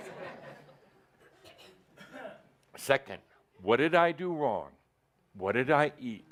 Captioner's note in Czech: smích